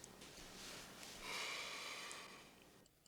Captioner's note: sighs